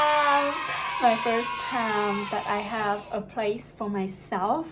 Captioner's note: yay sound effect